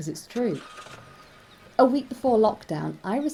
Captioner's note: faint children's voices and cars